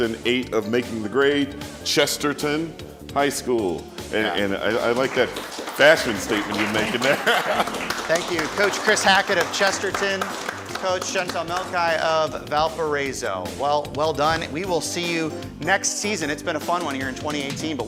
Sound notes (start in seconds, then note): 3.9 applause; 6.0 laughs